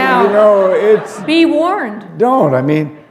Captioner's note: laughter